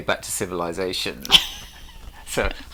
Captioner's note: chuckles